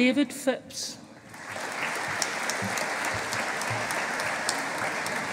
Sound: audience applauding

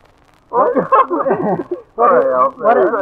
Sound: laughing

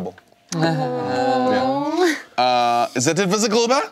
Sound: awwws

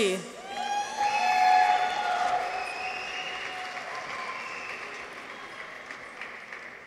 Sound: people cheer; audience applauds

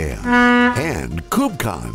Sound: ship honking

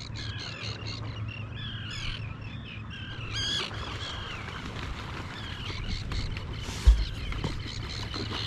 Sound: sound of birds

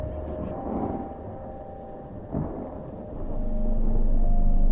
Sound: thunder rumbling

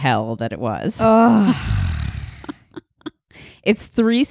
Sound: loudly sighing

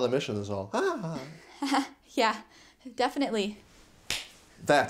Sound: laughs

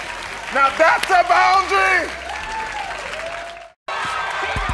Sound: crowd clapping

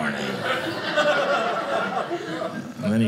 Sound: audience laughing

